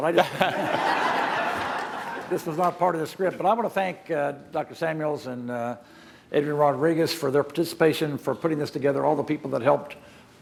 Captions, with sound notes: >> HE ONLY DID THAT BECAUSE I STOOD UP. >> [ LAUGHTER ] >> THIS IS NOT PART OF THE SCRIPT. I WANT TO THANK DR. SAMUEL AND